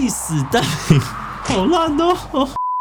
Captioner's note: laughs